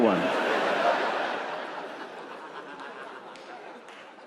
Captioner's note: audience laughing